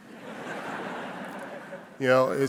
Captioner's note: audience laughing